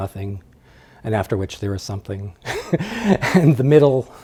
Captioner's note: laughs